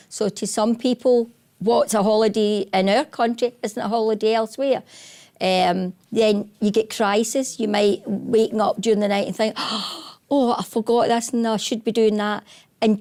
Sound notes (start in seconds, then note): 9.8 gasps